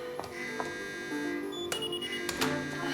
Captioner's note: alarm